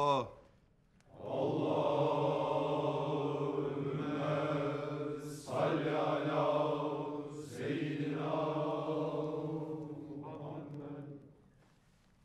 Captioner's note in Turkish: Hep bir ağızdan; Sessizlik